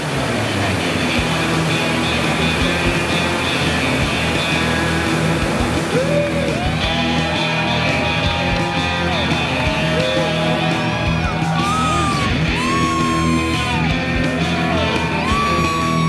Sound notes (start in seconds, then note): 0.3 adventurous music; 6.4 people cheering